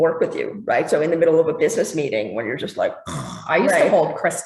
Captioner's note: snore